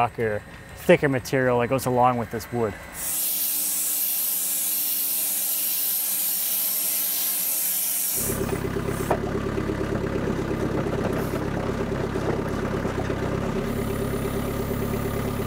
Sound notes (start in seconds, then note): 2.7 tool whirring; 8.1 vehicle rumbling